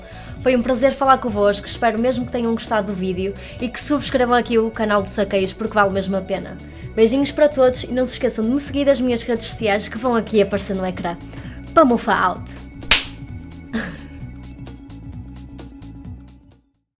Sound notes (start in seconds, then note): 12.8 clap